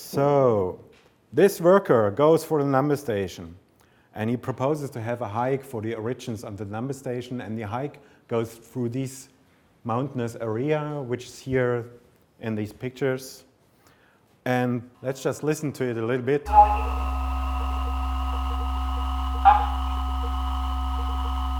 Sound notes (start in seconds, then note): 16.5 radio audio distorting